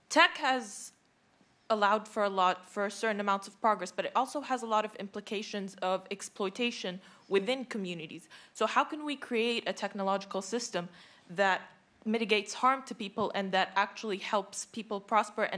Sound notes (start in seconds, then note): none